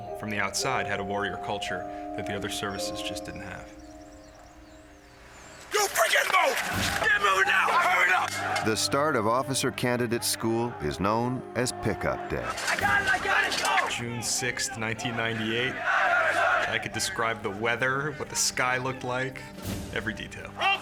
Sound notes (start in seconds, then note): 6.1 man shouting; 12.4 people shouting